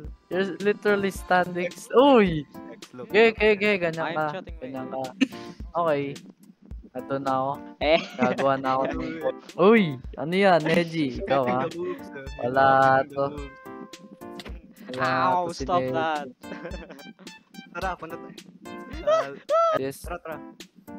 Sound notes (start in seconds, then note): 5.0 chuckles; 7.8 chuckles; 19.0 scared noises